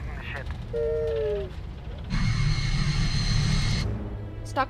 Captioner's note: R7 worried beep